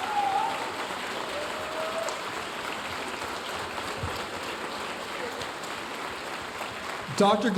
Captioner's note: audience continue cheering and applauding